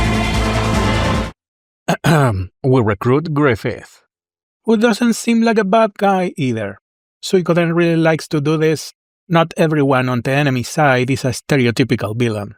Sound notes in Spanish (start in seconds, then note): 1.8 Ejem